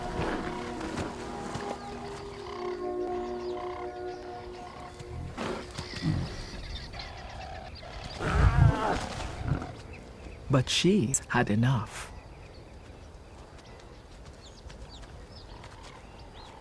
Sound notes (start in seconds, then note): 8.1 roars; 8.2 growls